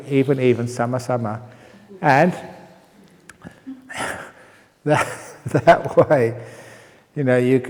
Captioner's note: chuckle